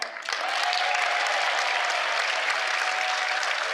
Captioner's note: cheers